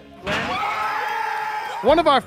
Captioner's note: cheering